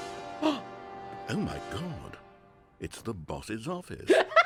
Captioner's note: gasps; sarcastic; laughs